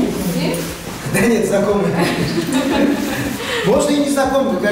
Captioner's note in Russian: смеётся